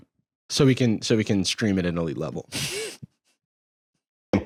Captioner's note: laughs